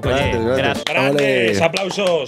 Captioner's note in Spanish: aplauden